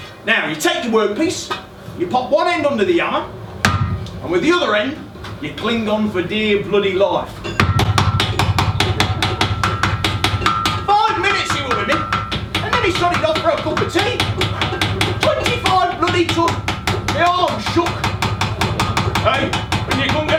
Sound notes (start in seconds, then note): 8.5 SFX - Metal Noise